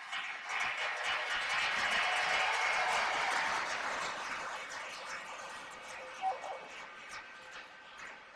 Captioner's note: cheers and applause